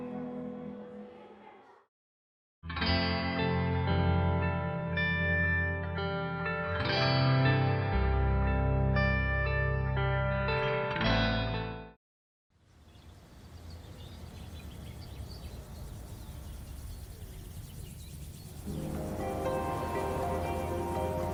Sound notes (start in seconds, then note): 0.2 guitar music; 15.8 birds chirping; 18.6 birds chirping